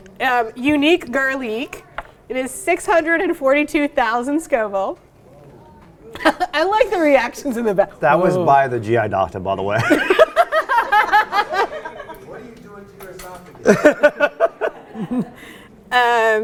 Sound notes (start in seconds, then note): 9.8 laughs; 13.6 laughs